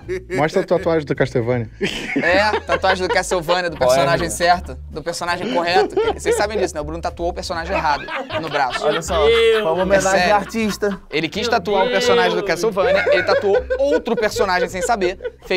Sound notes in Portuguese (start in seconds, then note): 1.8 risadas; 7.5 risadas